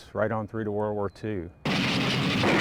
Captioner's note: gunfire